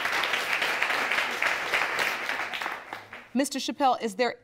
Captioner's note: audience clapping